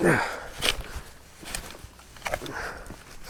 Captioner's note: shoveling